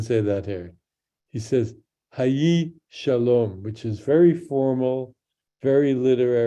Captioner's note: speaks in Hebrew